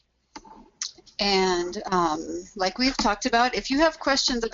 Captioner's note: voiceover